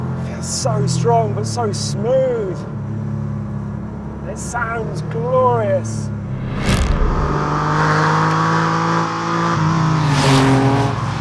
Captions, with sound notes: it feels so strong but so smooth. And it sounds glorious. (engine roars)